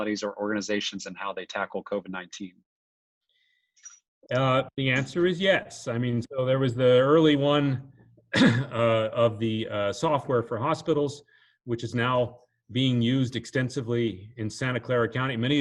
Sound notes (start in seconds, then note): 8.3 clears throat